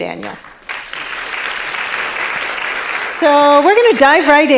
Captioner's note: audience clapping